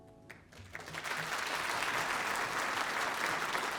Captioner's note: applause